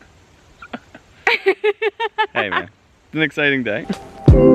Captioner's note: laughs